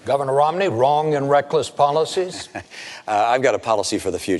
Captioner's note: chuckles